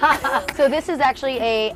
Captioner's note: both laugh